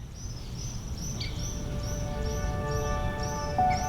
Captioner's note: birds chirping